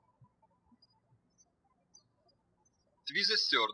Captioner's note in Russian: птички щебечут